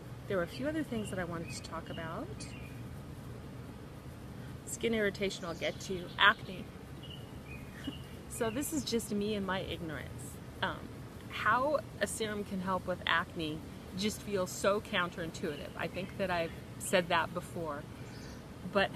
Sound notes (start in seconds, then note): 7.7 chuckles